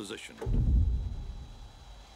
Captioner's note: thump